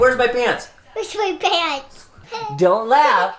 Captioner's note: laughing